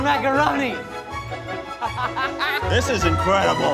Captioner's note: laughs